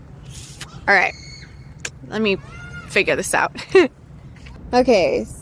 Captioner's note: laughs